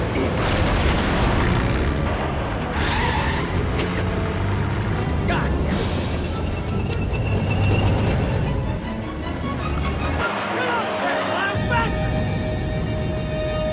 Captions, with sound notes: (explosion booms) (tires screech) Goddammit. Come on, Castellano. Faster.